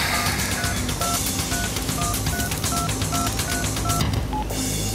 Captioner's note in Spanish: Sonido al marcar